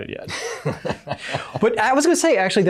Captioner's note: all laugh